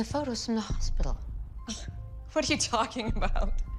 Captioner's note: scoffs